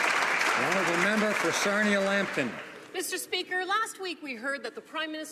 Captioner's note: some Applause